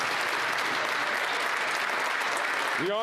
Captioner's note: some Applause